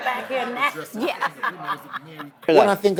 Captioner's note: laughing